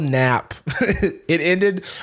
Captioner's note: chuckles